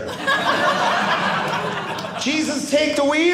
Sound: audience laughing

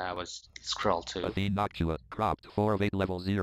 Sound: screen reader voice

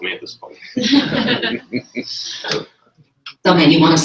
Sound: laughter

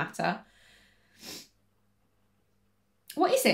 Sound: sniffles

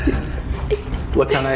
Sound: laughing

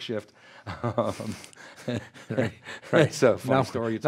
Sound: both laugh

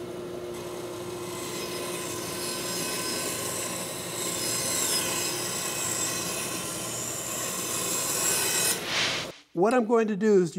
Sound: tool noise

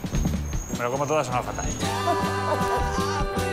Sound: laughs

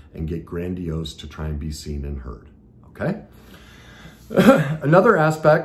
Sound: coughs

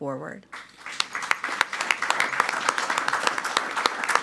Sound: clapping loudly

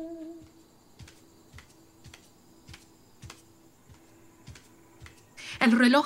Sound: footsteps pacing

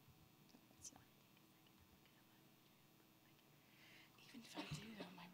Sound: whispering

